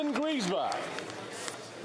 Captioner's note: applause